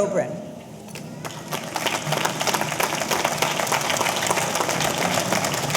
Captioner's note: audience applauding